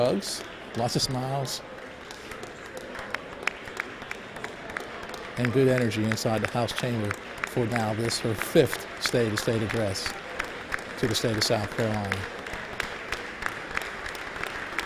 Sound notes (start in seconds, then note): 5.0 applause